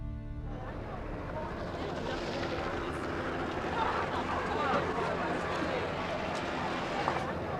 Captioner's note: people talking in background